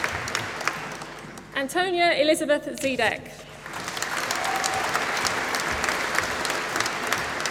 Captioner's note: applause